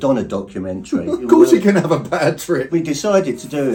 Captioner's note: laughing